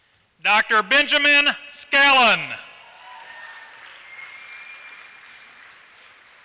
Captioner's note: applause